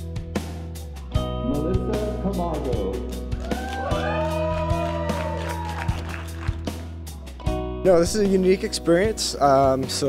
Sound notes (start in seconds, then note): 3.3 cheers and applause